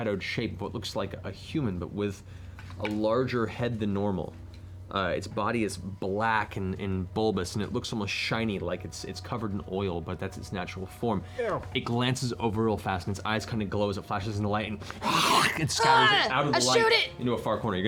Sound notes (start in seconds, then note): 15.0 hisses